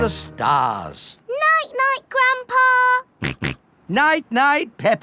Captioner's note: snorts